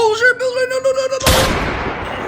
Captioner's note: gunshot